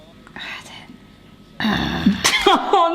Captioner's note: grumbles